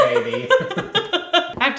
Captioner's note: laughing